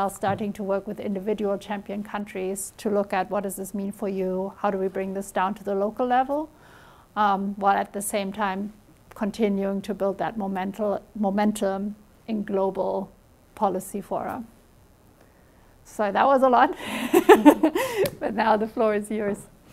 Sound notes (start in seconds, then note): 16.8 chuckles